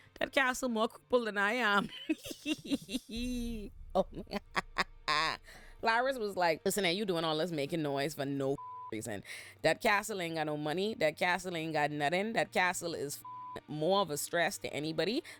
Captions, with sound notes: that castle more capable than I am. (laughing) Laris was like, listen, are you doing all this making noise for no (beep) reason? That castle ain't got no money, that castle ain't got nothing, that castle is (beep) more of a stress to anybody,